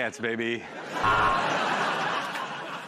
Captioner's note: buzzer buzzes